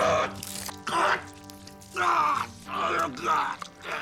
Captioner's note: gurgling